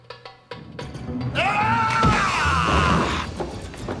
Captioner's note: yelling